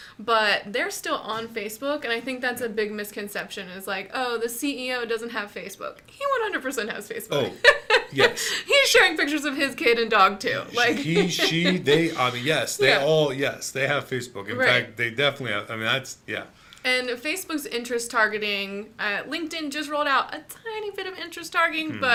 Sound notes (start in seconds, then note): 7.3 laughs